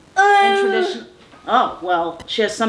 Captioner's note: groans